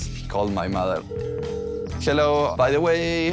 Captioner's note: phone ringing